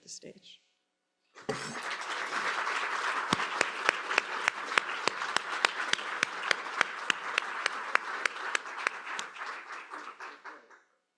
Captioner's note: applause